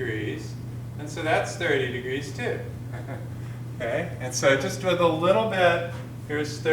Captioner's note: chuckles